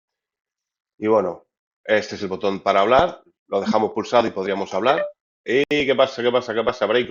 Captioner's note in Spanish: carraspeo